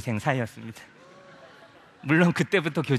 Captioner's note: laugh